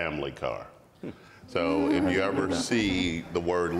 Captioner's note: panel member laughs